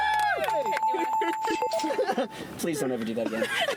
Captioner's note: bells ringing